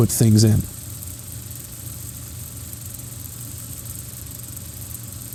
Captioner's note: projector whirring